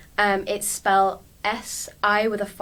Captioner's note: with an accent